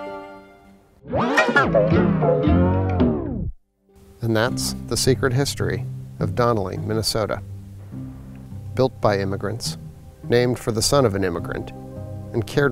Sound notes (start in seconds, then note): 1.0 tape rewinds